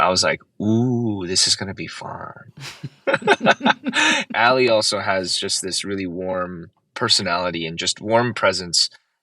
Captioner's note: laughter